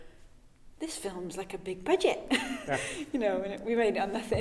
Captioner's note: chuckling